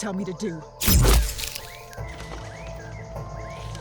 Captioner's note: laser gunshot; fleshy impact